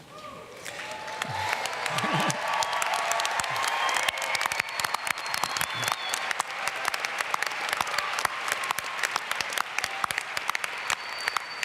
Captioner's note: applause and screams